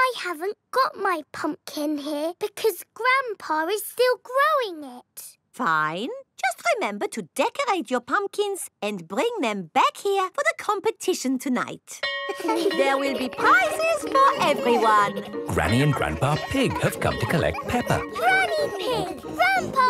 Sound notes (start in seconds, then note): 12.3 school bell rings